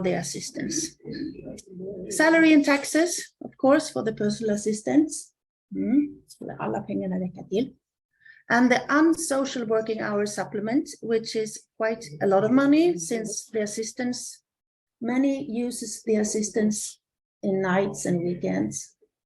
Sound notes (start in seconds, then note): 6.8 Swedish